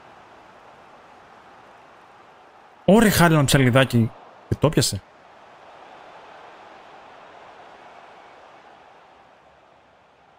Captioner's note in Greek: χειροκρότημα; χειροκρότημα